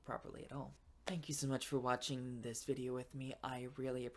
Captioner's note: claps